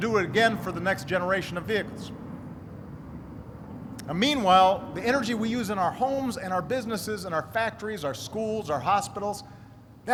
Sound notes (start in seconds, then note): none